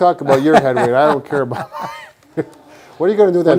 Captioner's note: laughing